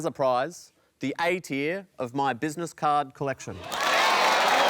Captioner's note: cheering, applause